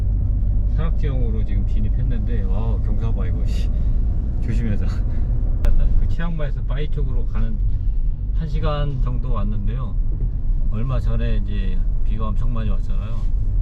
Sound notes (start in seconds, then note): 4.0 driving